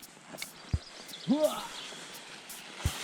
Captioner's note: groaning